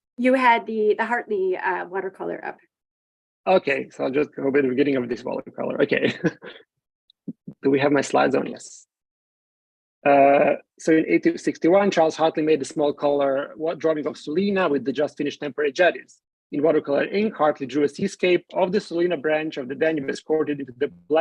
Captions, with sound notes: - You had the Hartley watercolor up. - Okay, so I'll just go the beginning of this watercolor. Okay (chuckles). Do we have my slides on? Yes. So in 1861 Charles Hartley made the small color drawing of Sulina with the just-finished temporary jetties. In watercolor ink Hartley drew seascape of the Sulina branch of the Danube